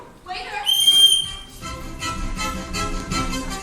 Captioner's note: whistle blows